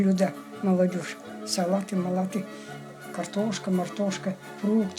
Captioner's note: Speaks Kalmyk jargon